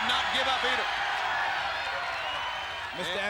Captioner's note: crowd cheering